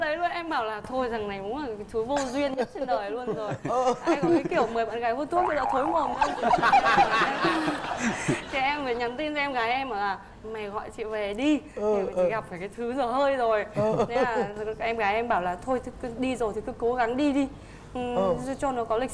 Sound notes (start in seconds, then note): 5.5 laughing